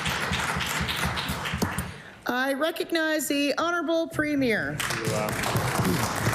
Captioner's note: applause